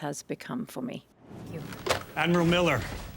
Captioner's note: screen whooshing